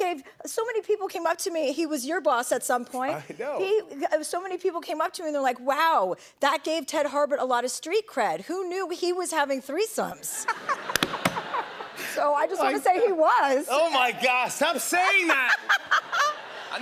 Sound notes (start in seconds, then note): 10.3 laughter; 14.6 laughter